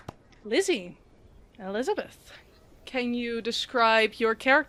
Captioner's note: clapping—we're all very excited